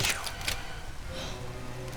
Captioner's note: gasp